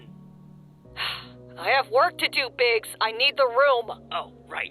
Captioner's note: sigh